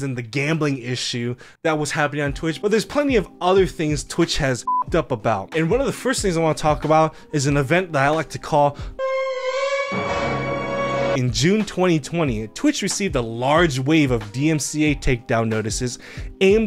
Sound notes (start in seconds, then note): 4.6 beep; 8.8 tense dramatic music